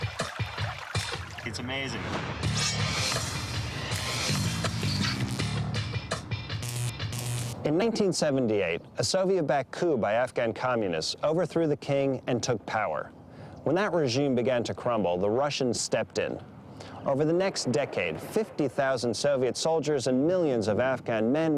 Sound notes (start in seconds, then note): 0.0 water trickling; 3.9 electricity buzzing